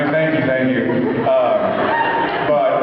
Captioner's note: laughs